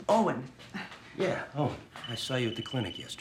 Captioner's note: phone ringing